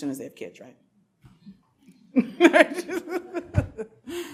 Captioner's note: laughs